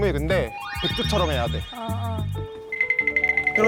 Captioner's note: elegant sound effect